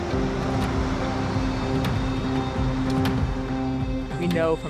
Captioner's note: humming traffic